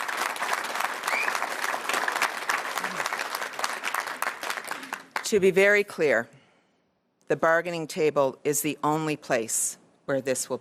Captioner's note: cheers & Applause